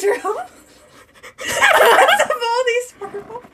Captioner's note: laughs